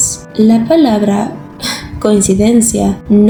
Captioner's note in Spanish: suspiro